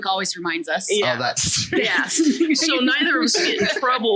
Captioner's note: laughs